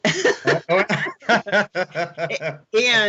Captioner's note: laughing